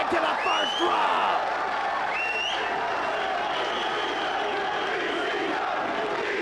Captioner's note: audience gasping; presenter speaking faintly off mic